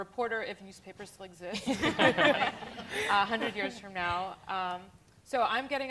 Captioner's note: laughter